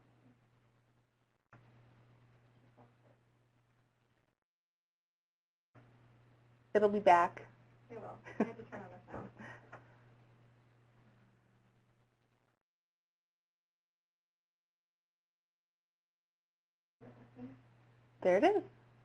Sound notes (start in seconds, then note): 2.3 silence; 11.6 silence